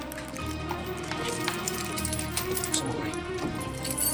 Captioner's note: keys jingle